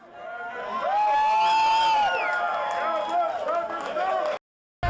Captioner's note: crowd cheering